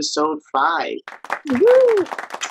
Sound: crowd applauds

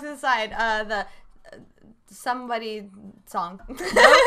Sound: laughs

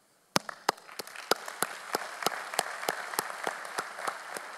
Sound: audience applauding

